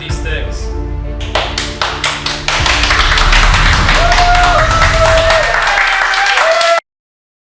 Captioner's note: applause